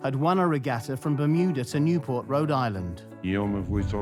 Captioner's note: in Spanish